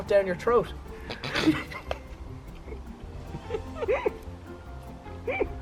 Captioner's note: all snicker